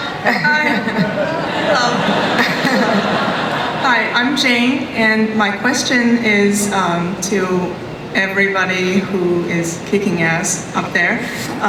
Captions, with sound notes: (laughter) - [Voiceover] Hi, I'm Jane, and my question is to everybody who is kicking ass up there.